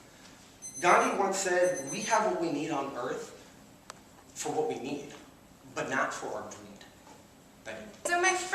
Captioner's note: timer beeping